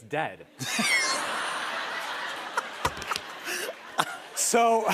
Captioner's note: laughter